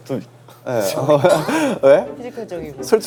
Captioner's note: pfft!